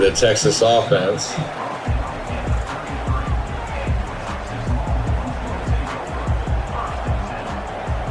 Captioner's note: crowd Noises